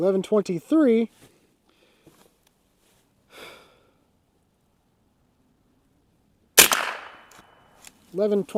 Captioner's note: gunshot